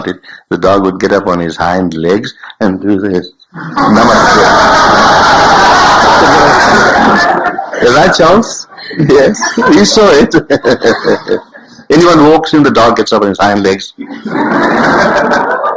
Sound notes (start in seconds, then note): 3.6 general laughter